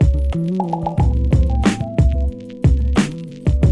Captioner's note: bubbles popping